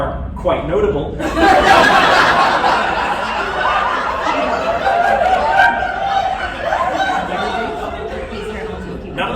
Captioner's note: laughter